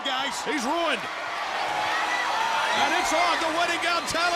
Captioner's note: crowd cheering